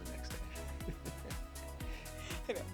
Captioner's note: laughing